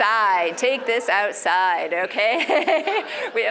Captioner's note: laugh